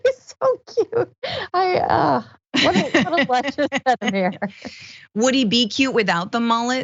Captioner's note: laugh